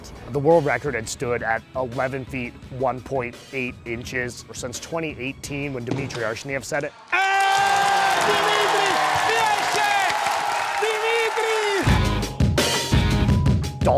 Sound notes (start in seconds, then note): 6.9 crowd cheering; 11.6 upbeat rock music